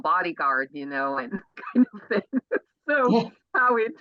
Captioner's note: laughs